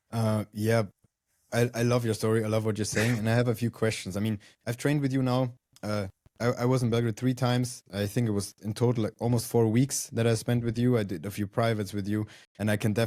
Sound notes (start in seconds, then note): 2.9 laughs